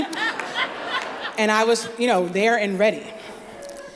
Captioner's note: laughter